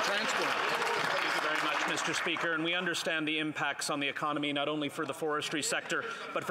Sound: applause

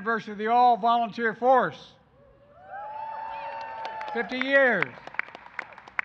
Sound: applause

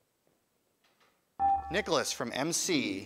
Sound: buzzer

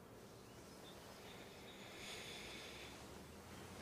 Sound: inhales

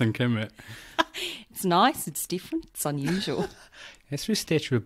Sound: aussie accent

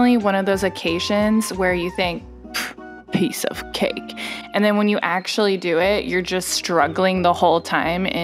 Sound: pff

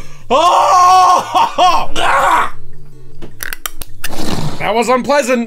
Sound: screaming; shuddering

